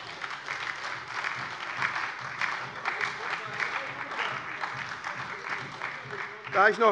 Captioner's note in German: Heiterkeit und Beifall bei der SPD und bei Abgeordneten der LINKEN